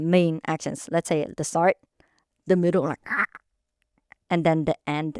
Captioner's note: croaks